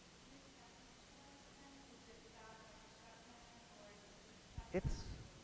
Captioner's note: audience member chatters